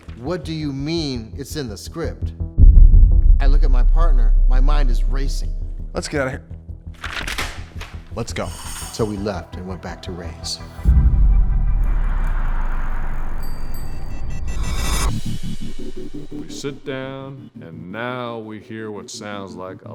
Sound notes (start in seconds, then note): 13.0 bell ringing